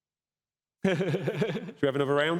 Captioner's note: chuckles